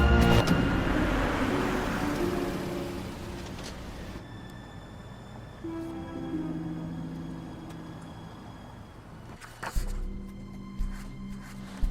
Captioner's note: car engine revs